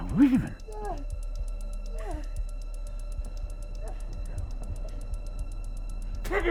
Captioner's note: muffled groaning